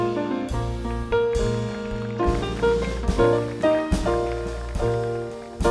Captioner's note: audience applauding